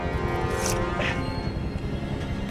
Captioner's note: gasps; knife slices